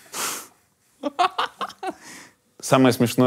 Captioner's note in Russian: смеется